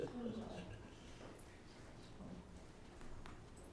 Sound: laughing

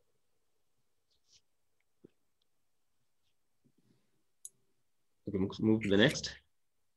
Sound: silence

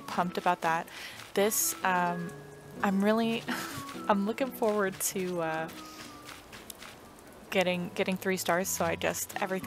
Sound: laugh

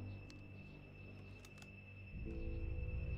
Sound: gun clicks

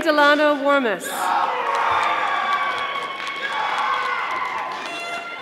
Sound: audience applauding

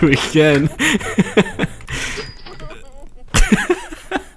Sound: crying

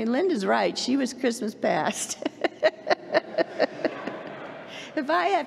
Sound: laughs

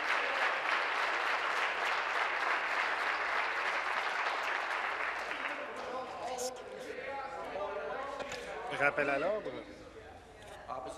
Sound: applause

